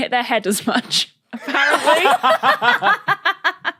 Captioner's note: laugh